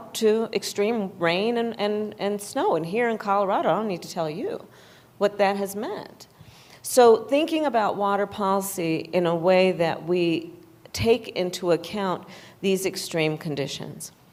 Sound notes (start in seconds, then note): none